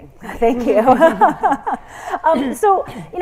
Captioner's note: laughs